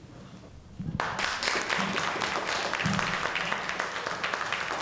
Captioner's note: audience clapping